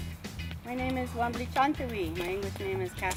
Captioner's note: non-english